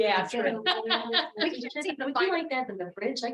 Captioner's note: member laughing